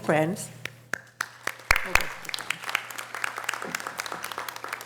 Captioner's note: audience applause